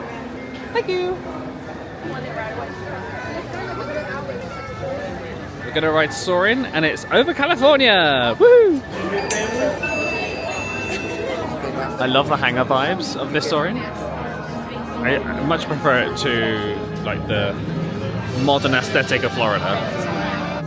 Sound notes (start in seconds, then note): 10.6 beeping